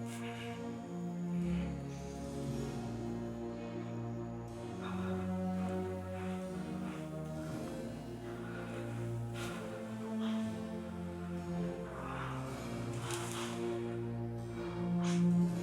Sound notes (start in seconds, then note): 8.6 Heathcliff breathing hard; 12.1 soft music